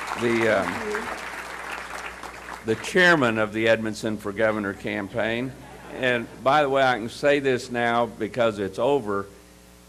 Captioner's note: cheers and applause